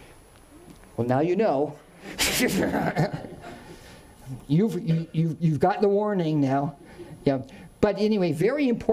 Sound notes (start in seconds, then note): 2.1 laughs